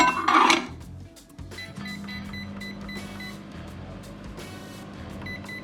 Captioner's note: microwave beeping